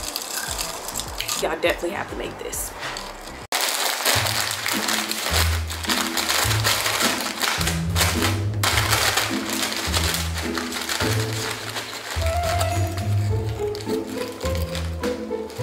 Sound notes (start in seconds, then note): 0.0 ice clinks; 3.7 bag crinkles; 11.9 playful orchestral music